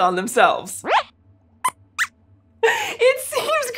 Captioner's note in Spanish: Squeaks chirría